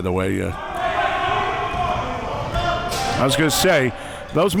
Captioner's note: audience chattering and yelling